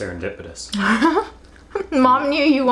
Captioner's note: laughs